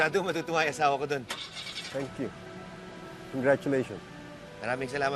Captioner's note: car engine starts